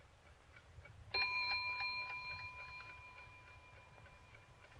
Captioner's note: bell dings